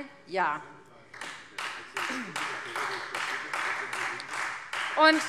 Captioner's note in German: Beifall Freie Demokraten